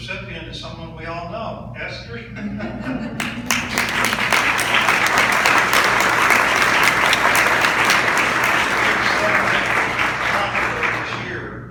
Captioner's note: audience laughs and claps